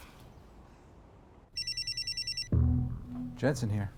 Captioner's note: phone rings